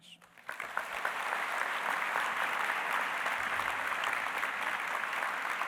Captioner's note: applause